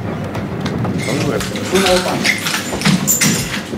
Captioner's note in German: Lautes Gepolter